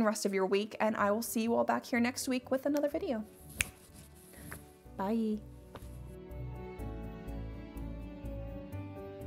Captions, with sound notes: rest of your week and I will see you all back here next week with another video. (snaps fingers) Bye. (calm music)